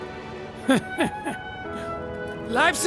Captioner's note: laughs